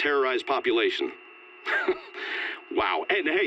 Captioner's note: laughs